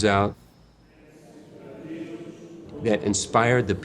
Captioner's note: voices echoing from sermon